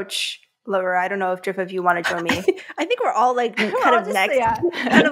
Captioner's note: chuckles